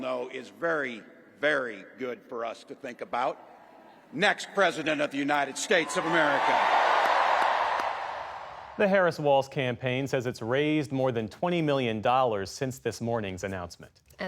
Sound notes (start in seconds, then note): 8.6 applause; 8.6 cheering